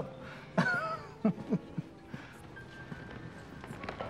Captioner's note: laughs